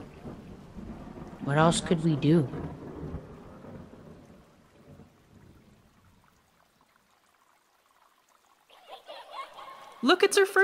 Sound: echoing children's laughter

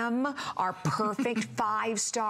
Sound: laughter

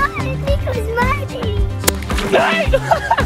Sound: babbling

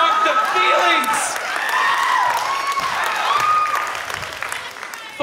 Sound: audience cheers

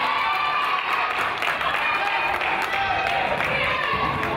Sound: crowd applauds and yells

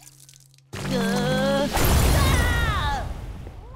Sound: groaning, screaming

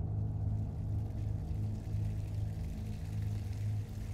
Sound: water splashing

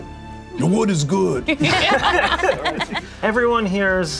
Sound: group laughs

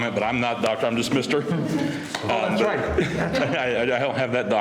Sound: laughter

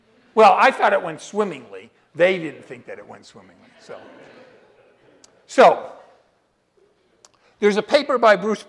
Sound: laughter

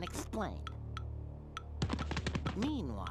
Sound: timer ticking

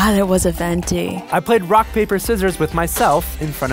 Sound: voiceover

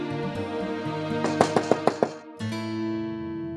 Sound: knocking on door

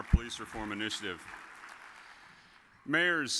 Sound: audience applauds

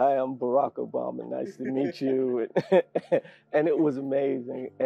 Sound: laugh

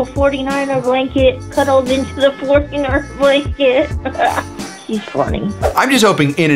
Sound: laughs

